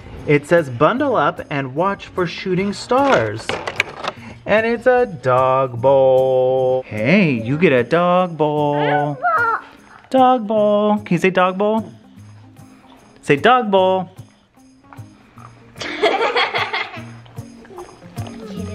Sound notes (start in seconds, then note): 8.8 babbling; 15.8 kids laughing